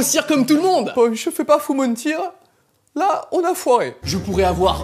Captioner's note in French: accent allemand